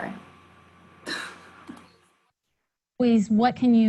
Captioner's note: chuckles